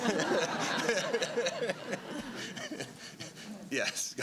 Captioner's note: laughter